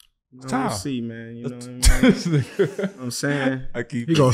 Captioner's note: laughing